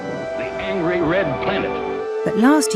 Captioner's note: voiceover